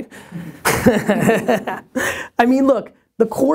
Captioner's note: laughs